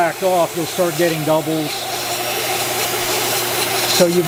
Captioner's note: vacuum whirring